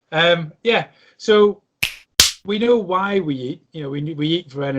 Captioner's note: snaps fingers